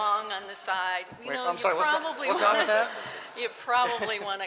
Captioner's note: laughter